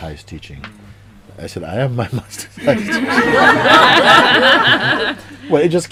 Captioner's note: laughter